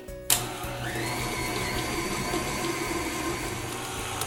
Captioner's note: whirring